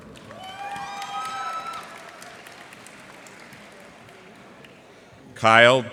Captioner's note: cheers and applause